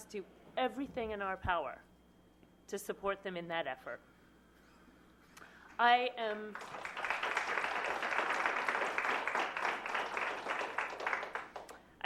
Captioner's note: applause